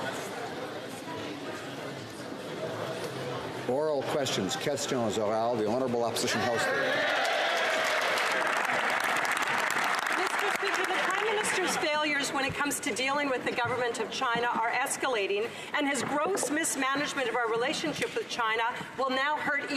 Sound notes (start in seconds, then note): 8.0 speaking French